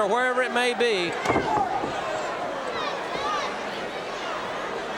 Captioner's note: audience cheering